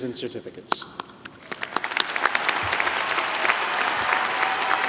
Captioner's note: applause